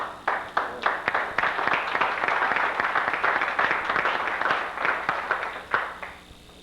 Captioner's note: applause